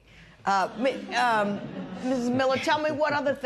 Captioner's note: laughter